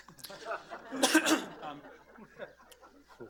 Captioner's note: laughter